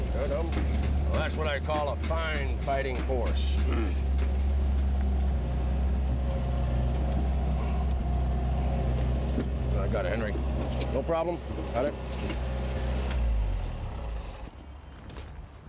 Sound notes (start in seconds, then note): 3.7 Henry grunts